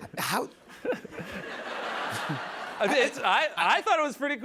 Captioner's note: laughter